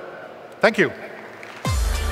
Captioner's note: applause